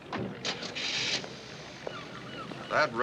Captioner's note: engine starting